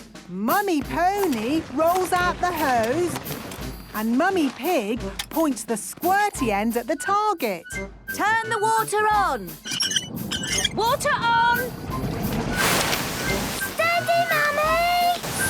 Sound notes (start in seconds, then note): 9.3 wheel squeaking